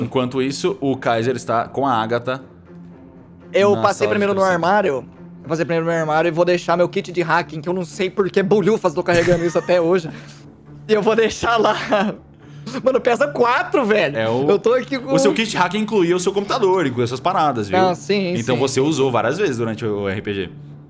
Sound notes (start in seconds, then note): 9.1 laughs